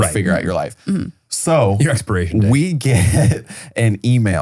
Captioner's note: laughs